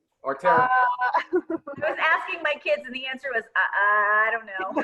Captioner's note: laughing